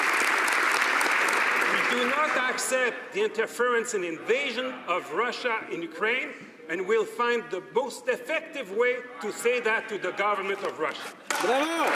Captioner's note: some Applause